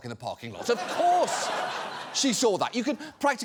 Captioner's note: audience laughs